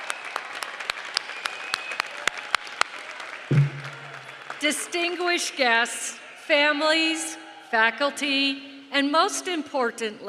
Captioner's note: applause